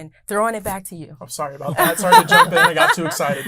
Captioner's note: laughs